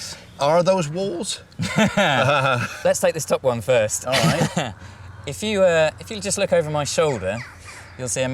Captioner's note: laughing